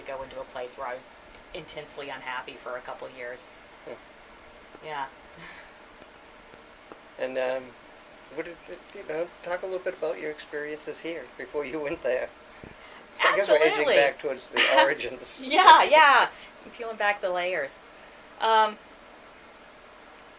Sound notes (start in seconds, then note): 14.5 chuckles